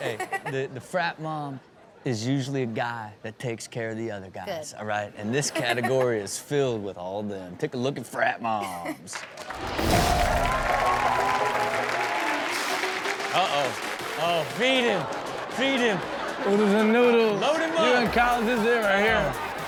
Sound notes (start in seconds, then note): 8.6 Chanel chuckles; 9.5 audience cheering; 13.4 upbeat music